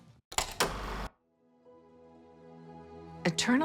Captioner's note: film reel clicks